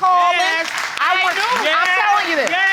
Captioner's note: audience applauding